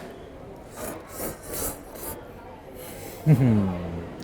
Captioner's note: slurping